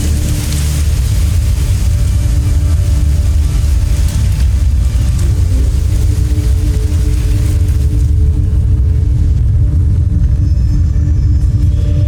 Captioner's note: music fades; molten surge rumbles; mystical music playing